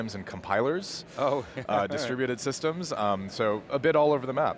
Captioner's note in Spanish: risas